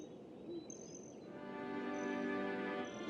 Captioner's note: nature sounds